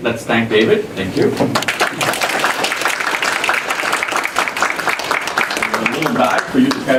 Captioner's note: applause